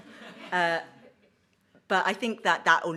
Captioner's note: audience laughs